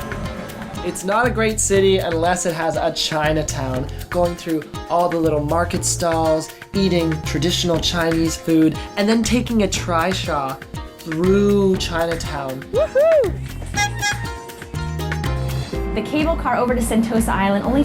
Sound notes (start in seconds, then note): 13.7 trishaw horn honks